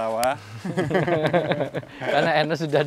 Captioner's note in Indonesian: tertawa